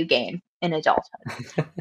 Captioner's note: laughs